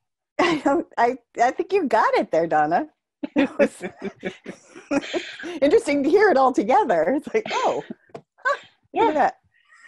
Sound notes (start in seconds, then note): 3.2 laughter